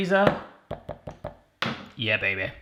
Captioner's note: taps on the peanut butter cup